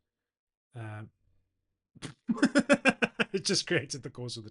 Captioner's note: laughs